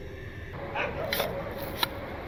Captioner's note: shoveling and dog barking